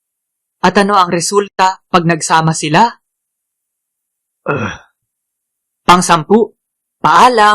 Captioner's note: grunts